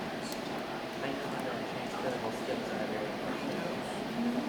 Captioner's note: group chatting